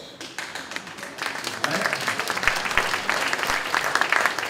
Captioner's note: clapping